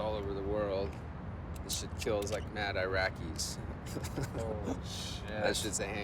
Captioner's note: laughs